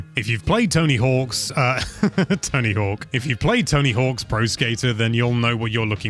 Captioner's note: laughter